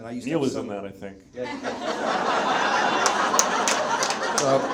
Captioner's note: audience laughs